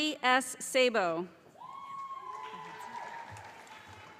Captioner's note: calling Graduate Names